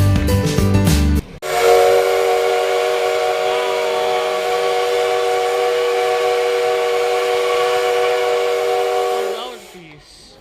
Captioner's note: whistle